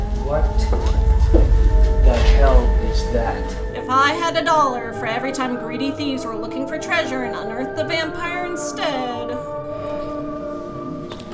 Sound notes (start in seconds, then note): 3.9 voiceover